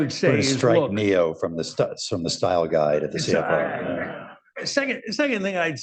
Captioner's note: laughter